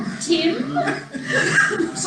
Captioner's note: laughs